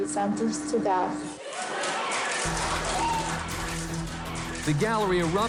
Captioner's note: cheers, applause